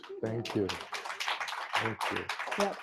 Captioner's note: applause